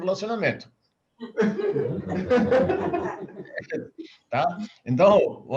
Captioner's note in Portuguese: risos